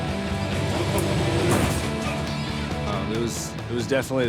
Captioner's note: heavy thudding